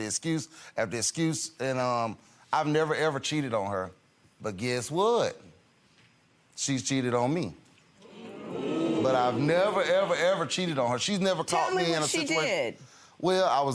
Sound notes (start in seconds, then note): 8.0 audience murmurs